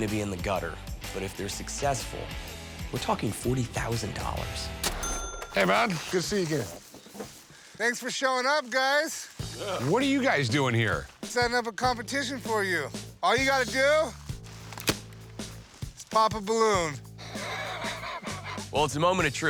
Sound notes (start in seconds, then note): 14.2 balloon pops; 16.3 chortles